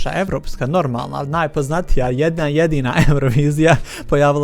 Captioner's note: laughs